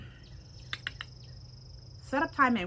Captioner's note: mouse clicks